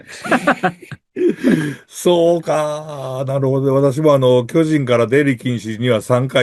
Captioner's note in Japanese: 笑い